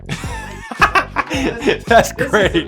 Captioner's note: laughs